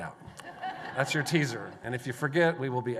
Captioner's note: laughter